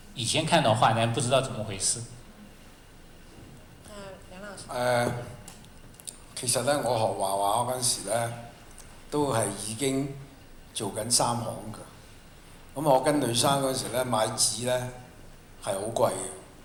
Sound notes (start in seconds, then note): 4.1 Mandarin; 6.9 Cantonese